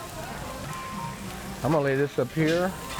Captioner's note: food sizzling